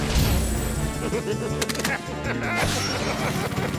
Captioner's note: laughing